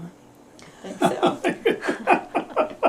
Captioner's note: laughter